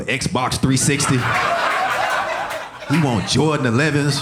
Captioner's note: audience laughing